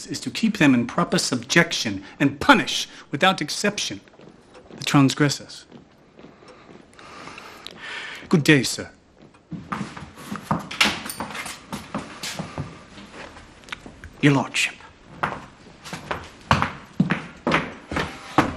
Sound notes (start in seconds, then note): 6.1 breathes deeply; 9.2 feet shuffle; 15.7 feet shuffle